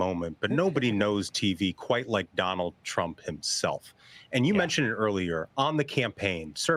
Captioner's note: laughter